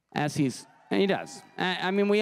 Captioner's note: crowd cheering and applauding